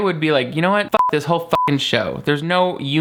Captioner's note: beep